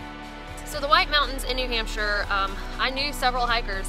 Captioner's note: none